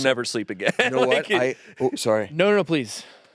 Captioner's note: laughs